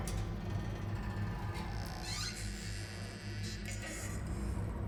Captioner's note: door creaking